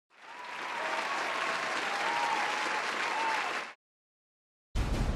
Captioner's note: applauses